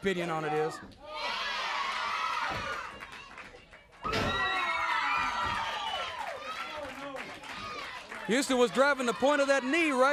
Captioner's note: crowd cheering